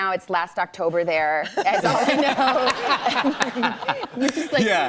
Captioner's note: laughter